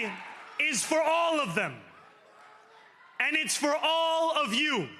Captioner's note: cheering